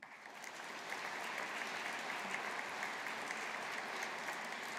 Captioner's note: audience applauding